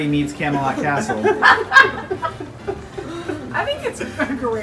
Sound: laughter

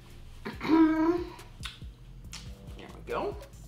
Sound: clearing throat; smacking lips

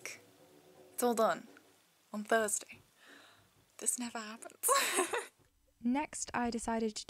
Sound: laughs; voiceover

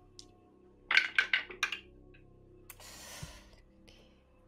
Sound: dice rattling

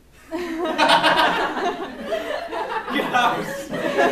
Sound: laughs

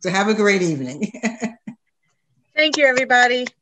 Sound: laughs

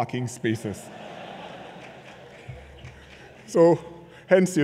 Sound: laughter

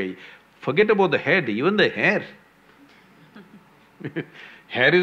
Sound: laughs

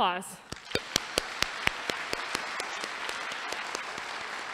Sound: applause

